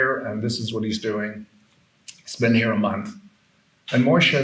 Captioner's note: none